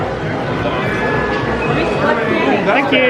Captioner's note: machine beeping